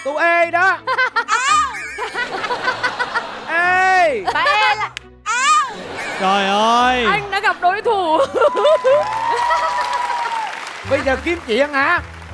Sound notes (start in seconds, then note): 0.8 laughing; 8.4 applause